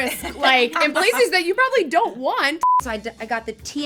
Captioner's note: beep